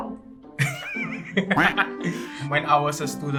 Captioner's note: nervous laughter